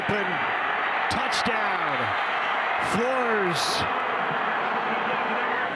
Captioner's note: fans cheer